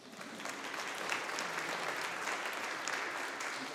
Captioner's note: audience applauding